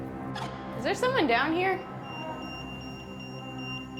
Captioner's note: EMF beeping